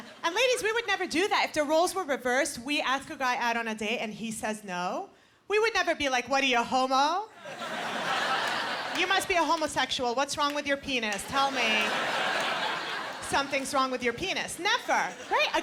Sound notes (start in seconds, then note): 11.2 laughter